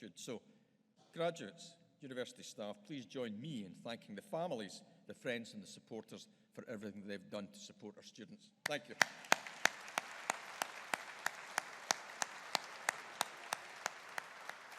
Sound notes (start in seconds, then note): 8.7 audience applauding